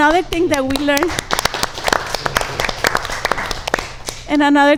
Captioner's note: audience applauds